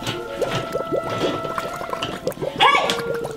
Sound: drink bubbles

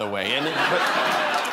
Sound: laughter

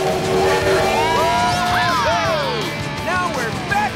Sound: cheering

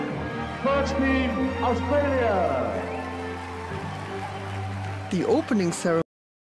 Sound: crowd applauds and cheers

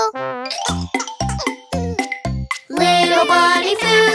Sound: kid chuckling

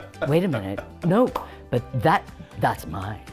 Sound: laughs

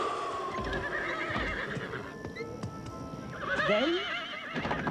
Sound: pony neighing

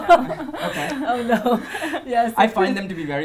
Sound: laugh

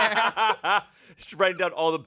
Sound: everyone laughs

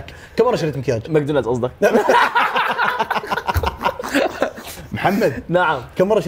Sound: laughs

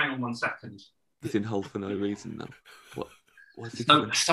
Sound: laughter

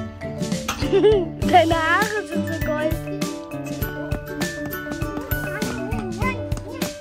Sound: laugh

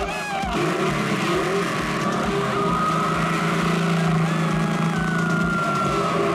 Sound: motorcycle engine revving

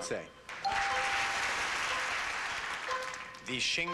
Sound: audience applauding

